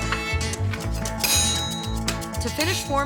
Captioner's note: hitting